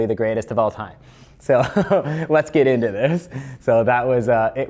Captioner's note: laughs